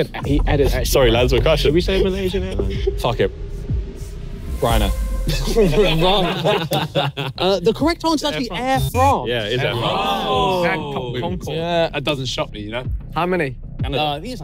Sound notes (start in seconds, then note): 5.3 everyone laughing; 9.6 everyone exclaiming